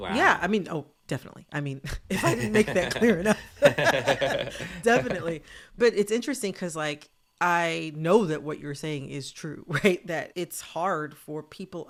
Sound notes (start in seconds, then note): 1.9 laughter